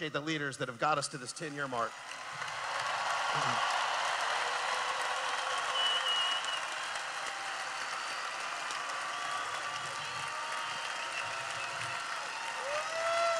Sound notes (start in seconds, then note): 1.8 cheering